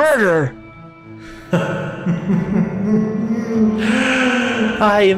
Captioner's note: Robotnik chuckles